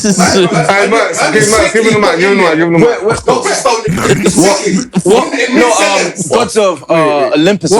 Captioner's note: giggling